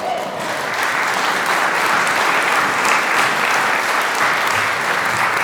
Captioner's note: applause